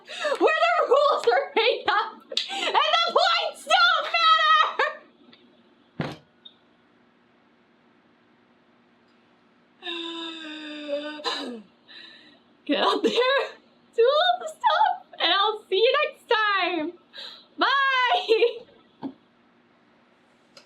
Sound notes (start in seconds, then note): 6.0 thuds head; 9.8 inhales loudly